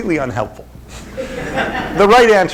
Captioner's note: laughter